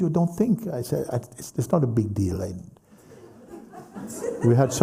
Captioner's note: laughter